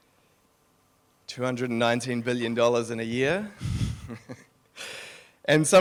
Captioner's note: laughs